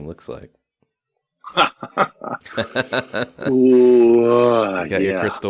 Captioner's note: laughs